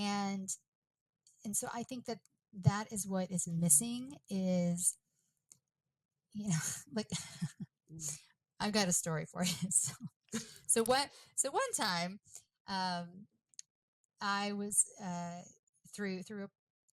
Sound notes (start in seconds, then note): 7.1 chuckles